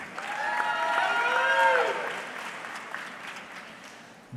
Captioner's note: audience cheering